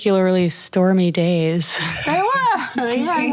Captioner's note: laughing